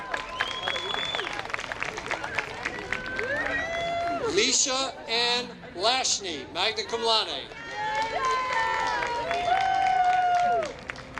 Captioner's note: applause